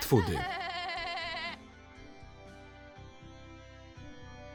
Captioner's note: laughs annoyingly